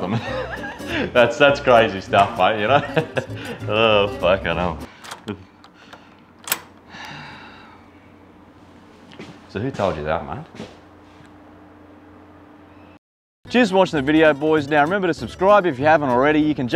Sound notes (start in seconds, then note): 0.1 laughs; 2.7 laughs; 6.3 door locks